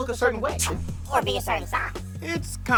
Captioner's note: whooshes